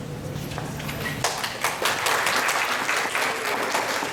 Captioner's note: applause